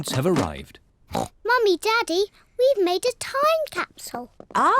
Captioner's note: oinks